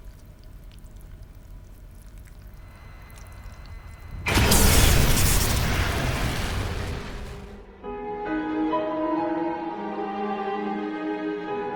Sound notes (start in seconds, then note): 2.4 static whines; 7.7 chilling instrumental music